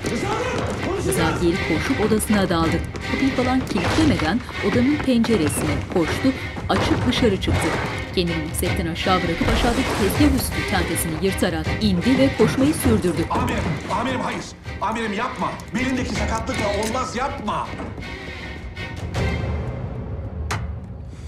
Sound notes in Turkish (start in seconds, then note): 2.1 Koşma sesi; 5.8 Müzik - Gerilim; 9.3 Düşme sesi; 10.2 Müzik - Gerilim; 17.6 Müzik - Gerilim